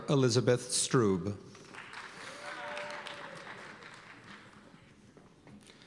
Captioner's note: cheers and applause